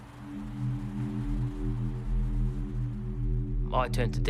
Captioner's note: car engines revving